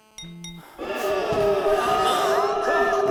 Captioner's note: phone beeps; monster howling